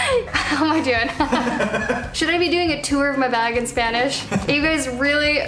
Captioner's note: laughter